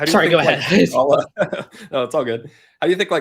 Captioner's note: both laughing